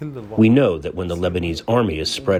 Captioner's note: through translator